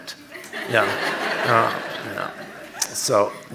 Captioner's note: audience laughing